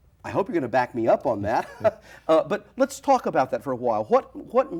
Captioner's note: laughs